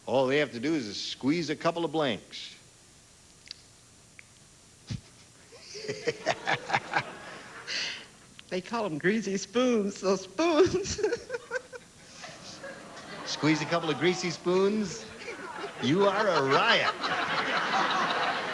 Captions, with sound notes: ALL THEY HAVE TO DO IS SQUEEZE A COUPLE OF BLANKS." THEY CALL THEM GREASY SPOONS, SO SPOONS. [AUDIENCE GROANS] SQUEEZE A COUPLE OF GREASY SPOONS? YOU ARE A RIOT!